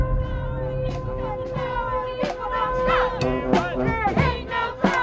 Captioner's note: people chanting